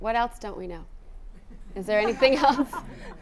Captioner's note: audience laughing